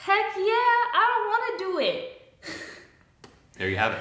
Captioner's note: chuckles